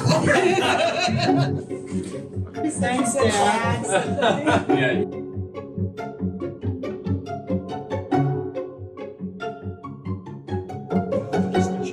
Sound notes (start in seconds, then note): 0.1 crew laughing; 3.7 laughing; 5.7 upbeat playful music